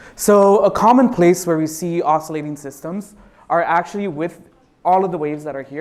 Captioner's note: none